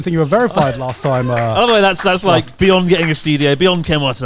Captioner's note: hands clapping